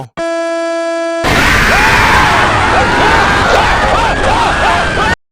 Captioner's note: people screaming